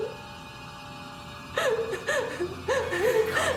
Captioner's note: crying